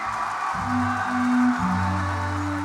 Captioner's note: crowd cheering